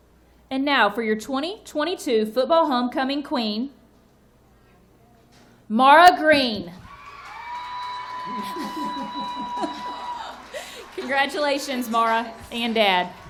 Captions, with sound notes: And now for your 2022 football Homecoming Queen, Mara Green. (audience cheering and applauding) Congratulations, Mara and dad.